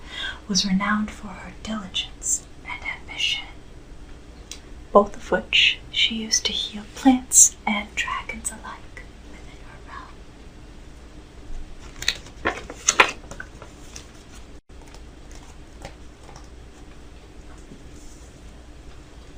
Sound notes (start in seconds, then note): 11.8 paper folding